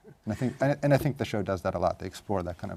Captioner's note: laugh